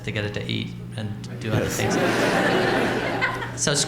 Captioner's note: laughter